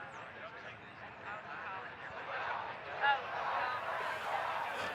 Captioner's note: crowd chattering and chanting